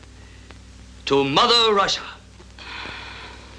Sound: sigh

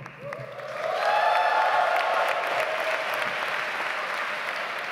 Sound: audience applauds

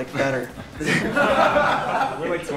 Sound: group laughing

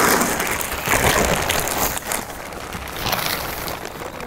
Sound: tent crackling

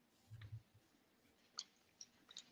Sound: none

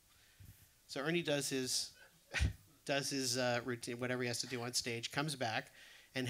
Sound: laughs

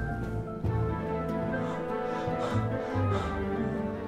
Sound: gasp

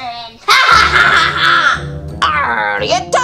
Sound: sinister laugh

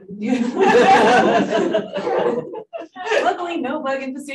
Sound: audience laughing

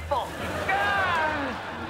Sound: moaning

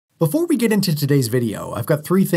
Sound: voiceover

